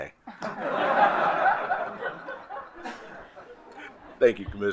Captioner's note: attendees laugh